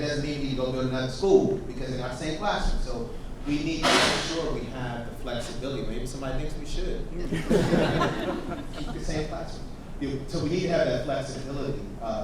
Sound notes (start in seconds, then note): 3.8 object clanging; 7.2 audience laughs